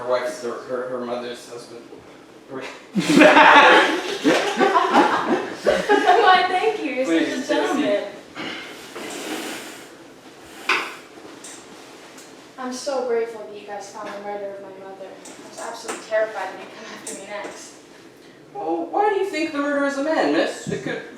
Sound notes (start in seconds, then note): 2.9 everybody laughing; 8.4 footsteps, chair sliding